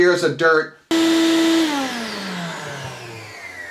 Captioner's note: air compressor